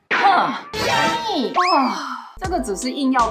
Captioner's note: sigh